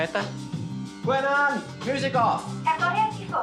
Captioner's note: replies in Welsh